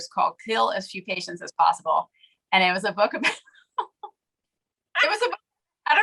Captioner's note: laughs